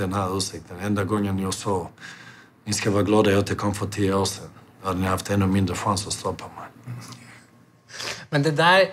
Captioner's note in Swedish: skrattar